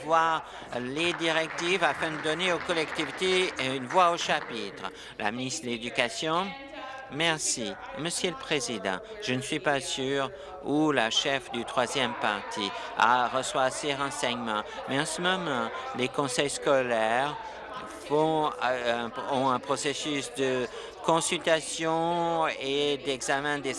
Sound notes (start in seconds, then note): 4.2 applause